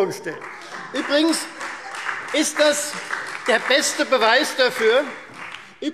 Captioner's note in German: Beifall Freie Demokraten und vereinzelt SPD